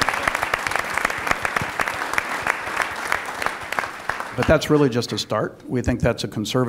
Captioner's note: applause